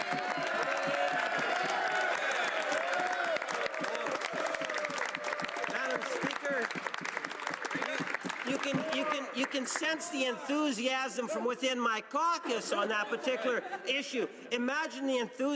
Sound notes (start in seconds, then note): 0.0 some applause; 8.4 cheering